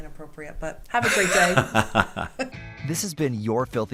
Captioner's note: laughing